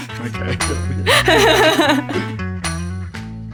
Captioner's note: both chuckling; upbeat music